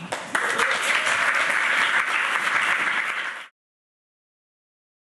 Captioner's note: audience clapping